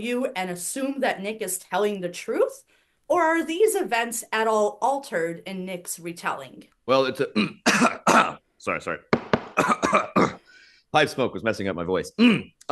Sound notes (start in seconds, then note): 7.3 Professor Greenlight coughs; 9.1 Professor Greenlight taps out pipe; 9.5 Professor Greenlight coughs